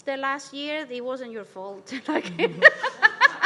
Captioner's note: laughs